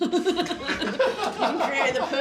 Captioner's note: laughing